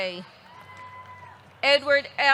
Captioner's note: audience clapping; audience cheering